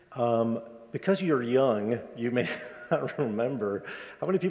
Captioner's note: laughs